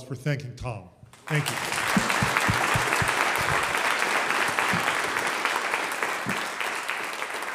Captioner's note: audience applauds